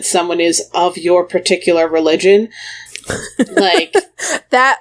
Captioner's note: laughs